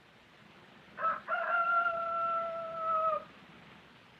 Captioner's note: rooster crows